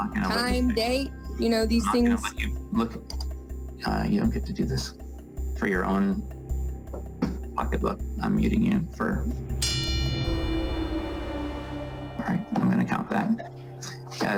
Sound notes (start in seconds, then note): 9.6 bell dings